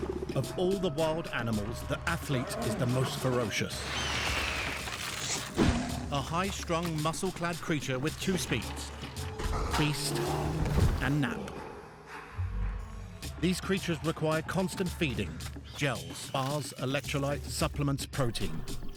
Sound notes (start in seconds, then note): 3.2 eagle screeches; 5.6 lion roars